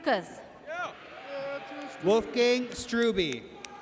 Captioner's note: audience cheers